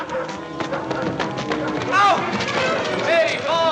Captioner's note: dog Barking